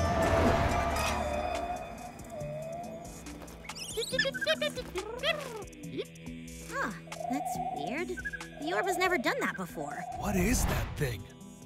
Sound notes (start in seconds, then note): 3.1 Spot chirps excitedly; 3.1 chirping from Kitsune's pocket